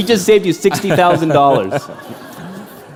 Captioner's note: laughter